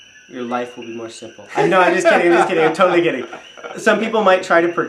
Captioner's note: chuckles